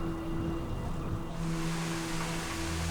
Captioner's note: whirr of machinery